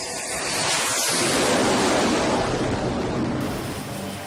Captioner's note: jet engines